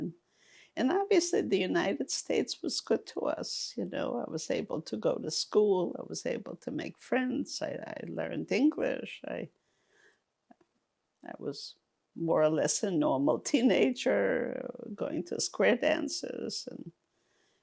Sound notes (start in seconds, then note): none